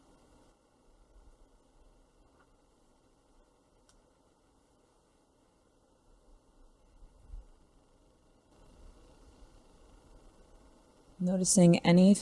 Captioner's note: silence